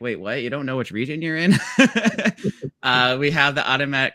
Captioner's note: laughs